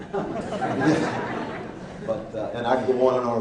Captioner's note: laughing